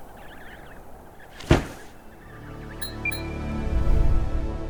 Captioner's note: baby penguins chirping; wind blowing; musical drone; loud thud; metallic "blink" sound effect; short uptempo melody; whoosh